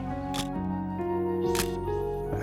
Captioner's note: camera shutter click